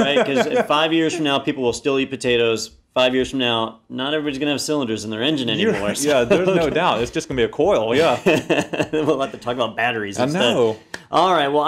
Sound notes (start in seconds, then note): 7.9 laugh